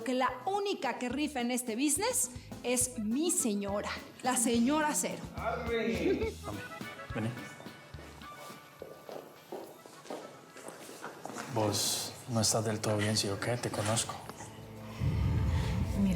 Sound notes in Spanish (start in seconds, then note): 6.0 risas